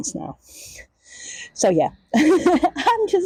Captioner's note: laughs